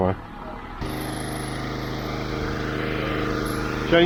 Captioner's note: generators humming loudly